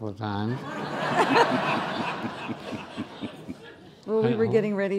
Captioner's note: laughing